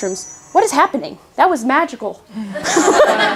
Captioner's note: audience laughs